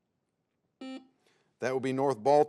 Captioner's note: buzzer beeps